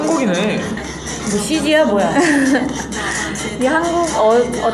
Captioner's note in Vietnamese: Cười; 웃음